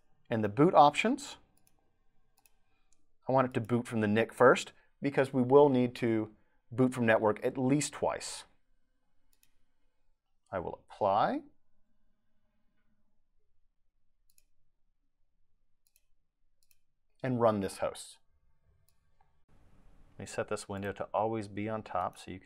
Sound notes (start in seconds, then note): 14.2 mouse clicking